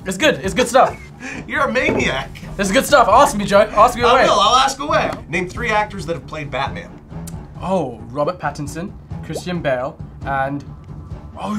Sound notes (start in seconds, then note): 0.0 scoffs; 0.8 laughs